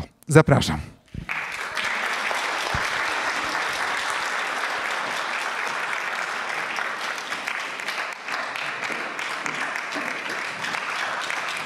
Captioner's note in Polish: oklaski